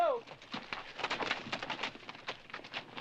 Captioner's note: shouting